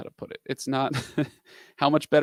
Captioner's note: chuckles